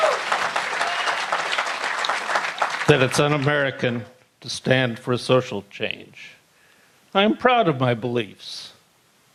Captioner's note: applause